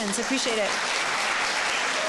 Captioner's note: applause